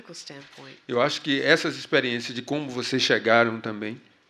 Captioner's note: speaking portuguese